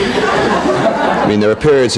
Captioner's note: people laughing